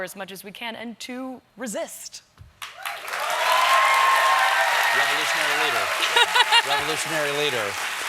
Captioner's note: cheers and applause